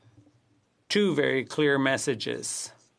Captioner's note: speaking French